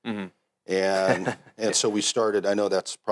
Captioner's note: laughs